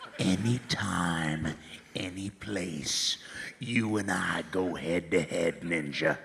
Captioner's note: laughs